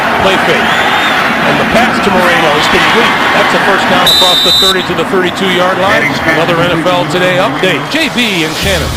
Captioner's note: crowd noise